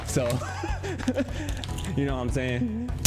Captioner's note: laughs